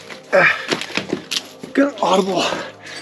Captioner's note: grunting